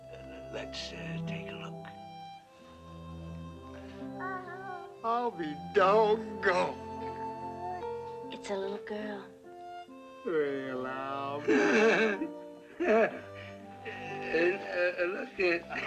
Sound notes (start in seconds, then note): 4.2 cooing; 11.4 laughs